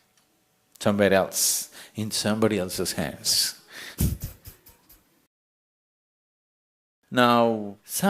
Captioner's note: يضحك